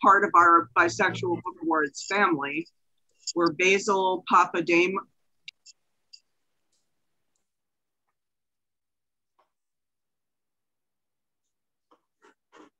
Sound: pause; sighs

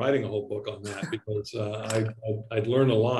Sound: laughs

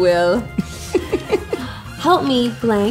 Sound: laughter

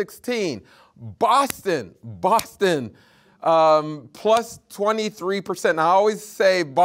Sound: hands clapping

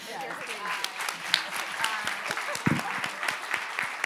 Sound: all applauding

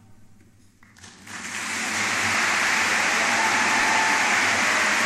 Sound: crowd applauses

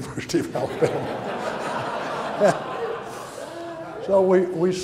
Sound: audience laughs

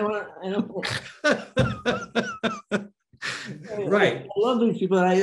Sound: Denis laughing; Denis snorting

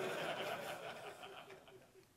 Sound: laughter

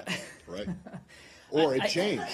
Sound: laughter

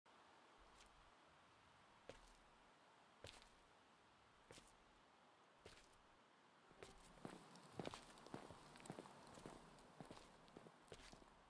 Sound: footsteps

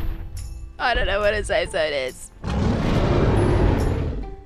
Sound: Very angry AI Rex Roar

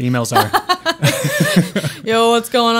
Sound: laughing

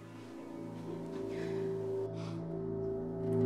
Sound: eerie hum

